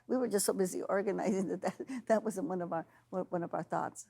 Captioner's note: laughing